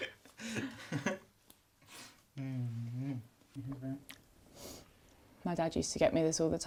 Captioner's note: both chuckling; chuckles